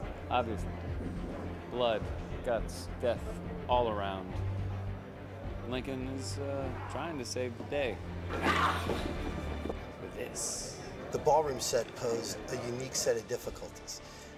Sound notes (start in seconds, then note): 8.2 yells